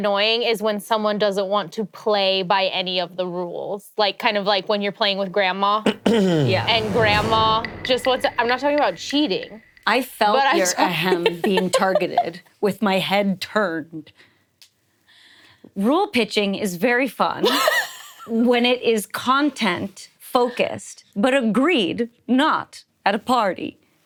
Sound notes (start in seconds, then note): 5.8 clearing throat; 6.4 dramatic music